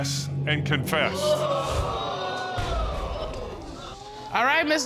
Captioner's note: audience gasps